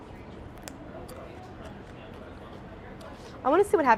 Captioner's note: crunching